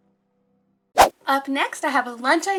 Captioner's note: slide whooshing